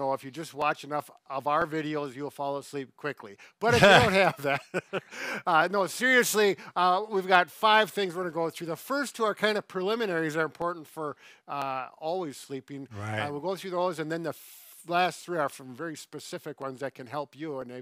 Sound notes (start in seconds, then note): 3.6 laughing amusingly